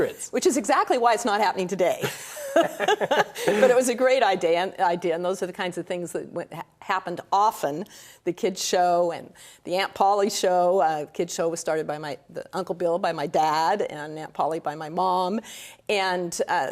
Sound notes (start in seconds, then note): 2.0 laughter